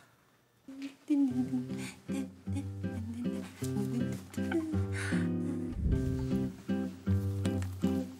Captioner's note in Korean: 콧노래 소리